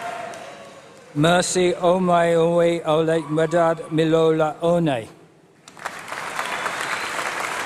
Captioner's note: applause